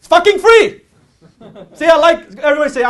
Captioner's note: audience laughs